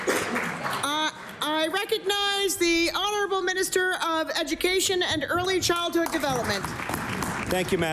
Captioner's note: applause